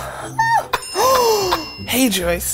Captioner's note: sighs